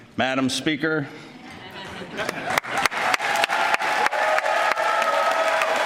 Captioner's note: applause